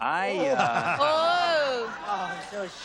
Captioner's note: laughter